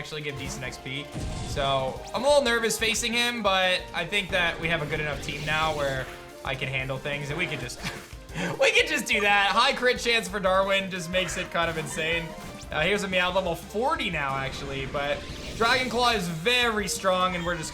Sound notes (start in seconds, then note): 7.8 giggles